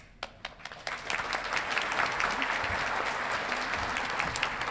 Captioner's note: audience clapping